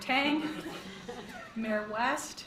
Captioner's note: board laughs